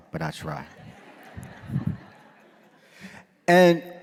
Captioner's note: audience laughing